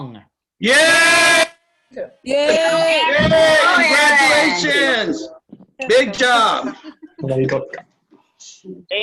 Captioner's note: cheering